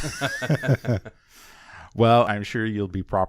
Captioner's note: laughs